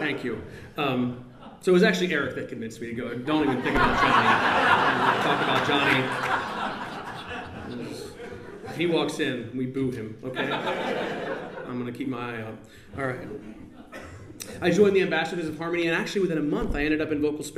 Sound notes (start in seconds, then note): 6.1 laughter